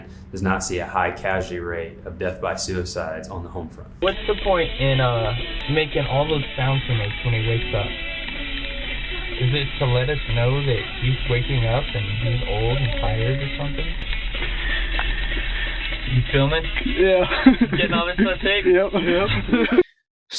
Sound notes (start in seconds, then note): 16.9 laughing